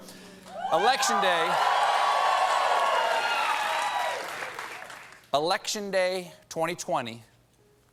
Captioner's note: cheers and applause